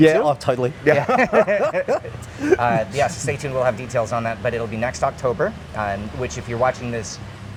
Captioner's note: laughing